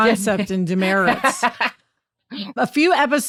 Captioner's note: laughs